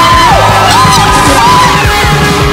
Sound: shrieking

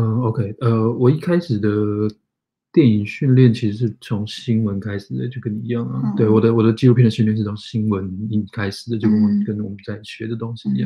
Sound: speaks mandarin

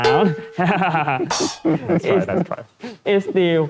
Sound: laugh

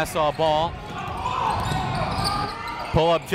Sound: crowd talking; coaches yelling

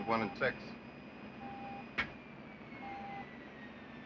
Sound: beeping Continues

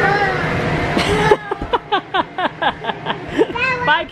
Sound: laughs

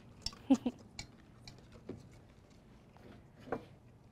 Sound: laughs

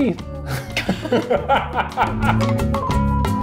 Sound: laughing

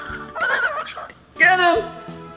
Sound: laughing; birds caws

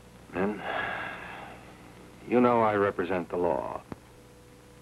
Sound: sighs

